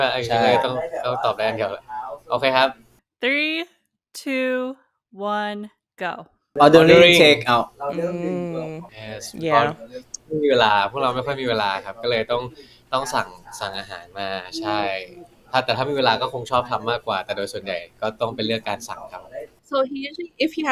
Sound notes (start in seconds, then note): 10.7 speaking Thai